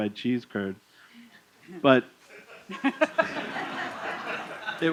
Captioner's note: laughter